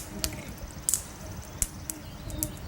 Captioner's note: birds singing